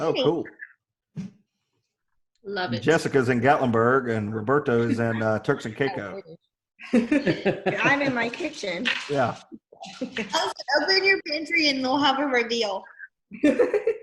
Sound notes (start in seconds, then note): 6.8 laughing